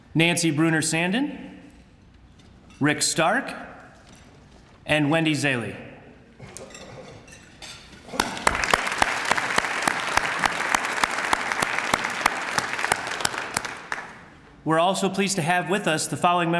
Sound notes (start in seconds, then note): 8.1 applause